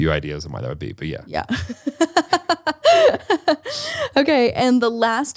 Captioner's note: laughs